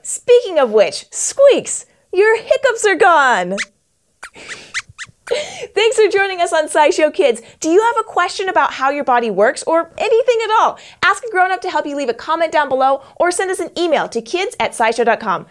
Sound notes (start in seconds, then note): 4.2 squeaks squeaks